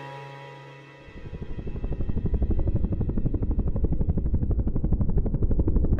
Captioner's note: helicopter blades whirring